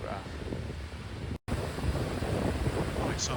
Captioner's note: loud water splashing